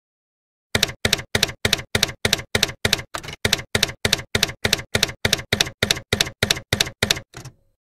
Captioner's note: typewriter keys clacking